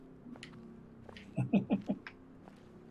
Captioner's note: chuckles